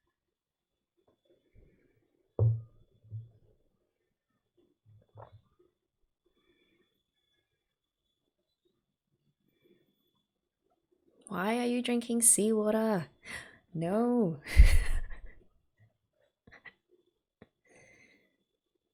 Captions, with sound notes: Why are you drinking seawater? No! [laughs]